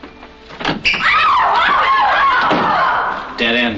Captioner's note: screams